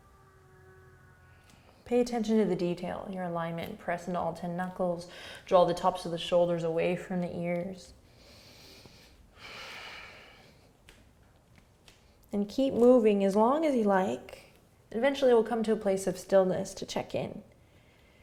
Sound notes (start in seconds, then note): 8.0 breathing; 17.6 exhaling and inhaling